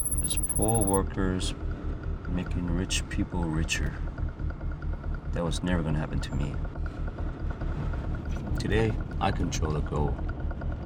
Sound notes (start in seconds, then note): none